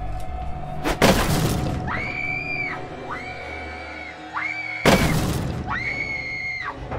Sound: ax thuds; Lindsay screaming

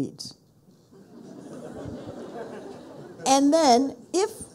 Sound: people laughing

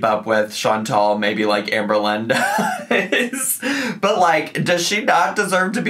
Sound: laughing

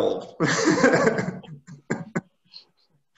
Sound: laughs

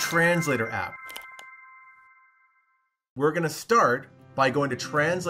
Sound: electronic chime

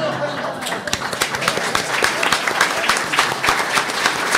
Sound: applause; laughter

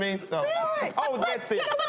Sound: stuttering

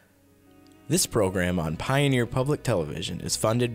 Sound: voiceover

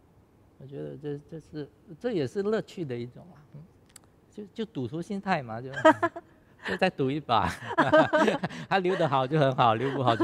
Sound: chuckles

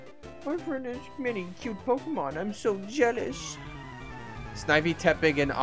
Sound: silly voice

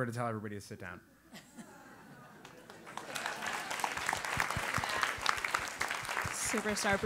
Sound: applause

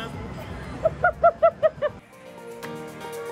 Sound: laughing; upbeat music

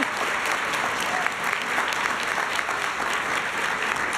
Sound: applause

